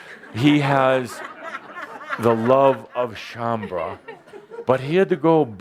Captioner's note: laughter